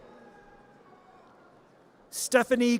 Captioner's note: audience cheers